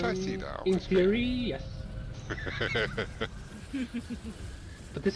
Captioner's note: laughter